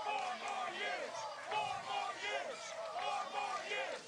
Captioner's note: cheers and applause